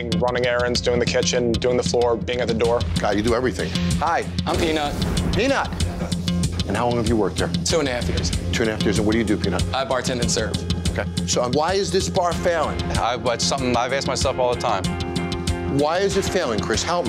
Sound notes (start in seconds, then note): none